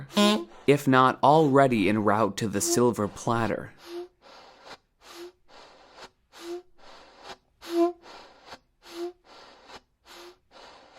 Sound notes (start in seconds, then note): 0.0 beep; 2.5 air puffs and horn beeps